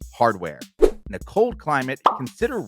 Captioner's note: air whooshes